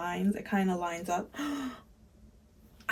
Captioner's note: gasp